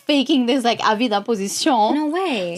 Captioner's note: laughs